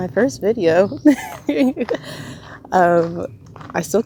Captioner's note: laughs in shock and excitement